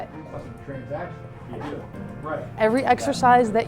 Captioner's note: classroom murmurings